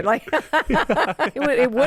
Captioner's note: both laugh